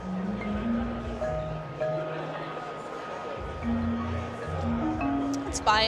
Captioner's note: crowd murmuring; bright music